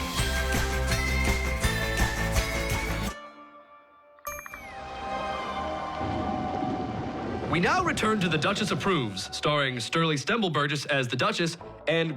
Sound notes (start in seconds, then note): 4.6 dramatic music plays; 5.8 thunder crashes